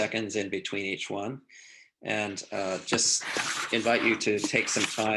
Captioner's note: sound of shuffling paper